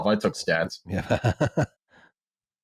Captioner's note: laughs